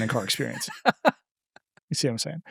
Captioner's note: laughing